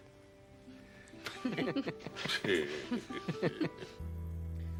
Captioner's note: semua tertawa